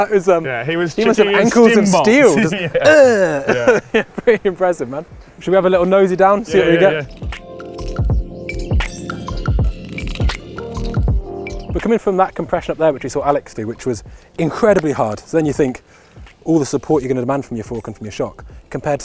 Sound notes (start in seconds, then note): 0.4 laughs; 8.2 chill music